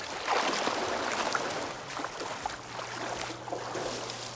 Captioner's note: water splashes